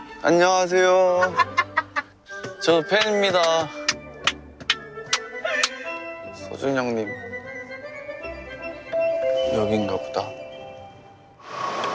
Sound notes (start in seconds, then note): 4.0 The two in the back are laughing with seal claps